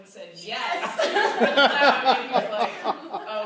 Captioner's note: laughter